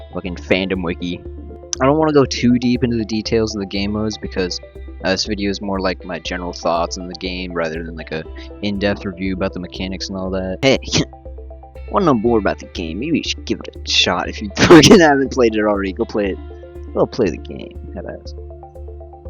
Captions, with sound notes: fuckin fandom wiki I don't wana go too deep into the details of the gamemodes because, This video's more like my general thoughts on the game rather than like a in depth review about the mechanics and all that. Hey, heh you wana know more about the game maybe you should give it a shot if you- *mic peaks* havent played it already, goplayit go play the game headass